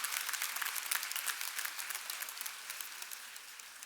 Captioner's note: applause